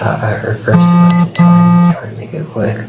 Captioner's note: phone vibrating